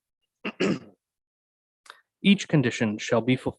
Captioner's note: mayor clears throat